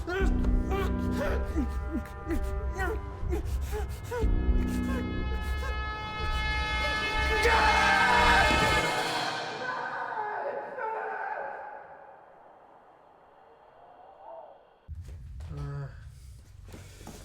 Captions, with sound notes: - The trouble with eyes is that even with them you're still blind. (whimpering) (screaming)